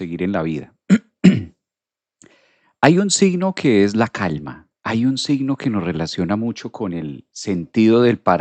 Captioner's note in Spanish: carraspeo